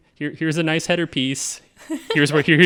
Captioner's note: laughing